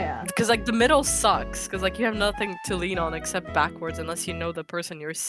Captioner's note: none